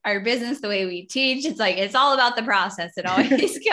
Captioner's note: laughs